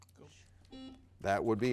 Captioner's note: buzzer dings